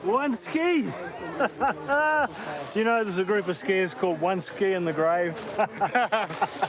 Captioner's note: laughs; both laugh